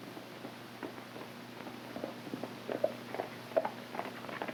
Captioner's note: hooves clopping